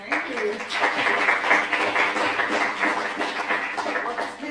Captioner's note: applause